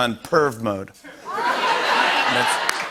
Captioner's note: laughter